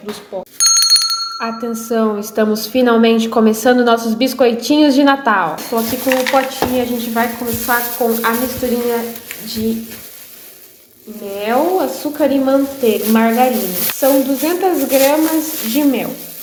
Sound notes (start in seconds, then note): 0.6 bell rings